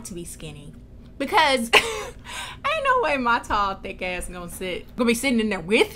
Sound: laugh

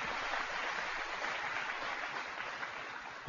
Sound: applause

